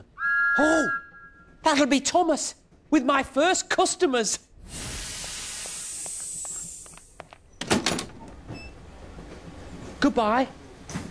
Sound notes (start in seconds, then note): 0.1 thomas whistles; 4.6 thomas lets off steam